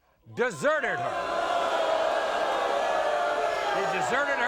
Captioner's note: audience booing